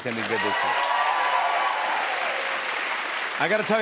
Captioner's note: cheers and applause